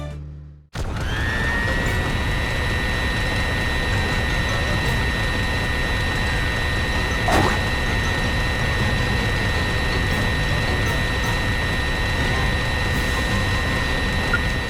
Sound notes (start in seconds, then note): 0.9 whirr whirr whirr whirr whirr! Brrrrrrrrrrrrrr!